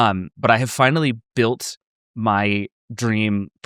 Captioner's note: none